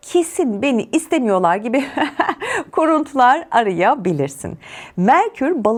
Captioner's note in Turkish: kahkaha